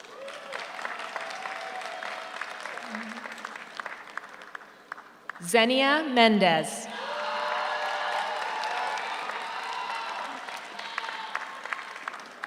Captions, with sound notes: (audience cheers) (audience applauds) Xenia Mendez. (audience cheers) (audience applauds)